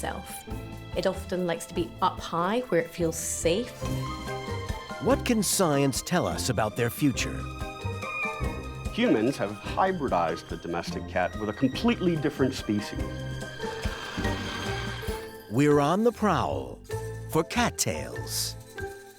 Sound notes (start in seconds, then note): 6.9 meows; 13.1 hissing